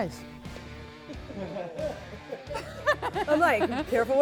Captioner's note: laughs